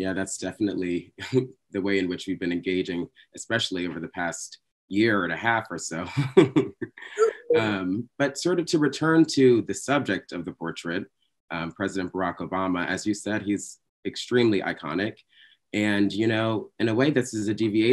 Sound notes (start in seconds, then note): 6.0 chuckling